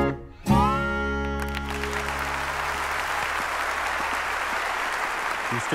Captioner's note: audience applauding